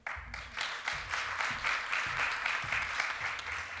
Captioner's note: applause